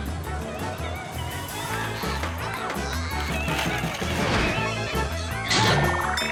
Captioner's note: kid squealing and laughing